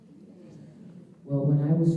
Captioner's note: audience murmuring